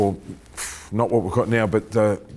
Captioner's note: exhales